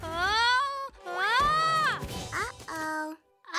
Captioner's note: screams